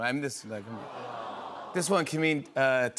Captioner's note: audience "Awws"